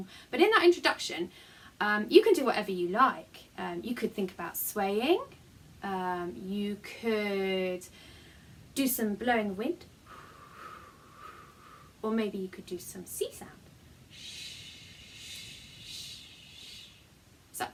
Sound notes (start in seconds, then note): 11.2 blow; 14.1 shhhh